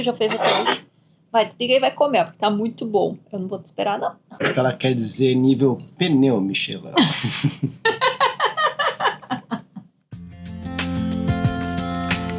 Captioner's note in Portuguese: risadas